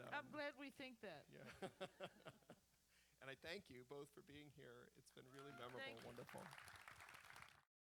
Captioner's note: laughs; applause